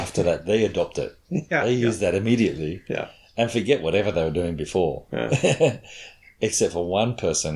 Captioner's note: chuckles